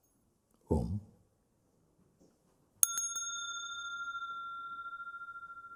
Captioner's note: rings the bell